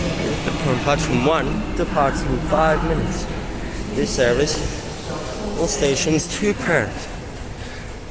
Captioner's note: reciting announcement